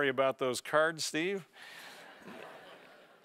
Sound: laugh

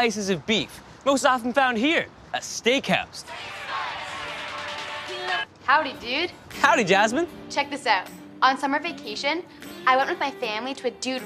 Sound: applause

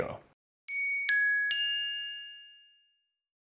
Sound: soft chimes

